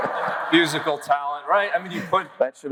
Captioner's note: audience laughs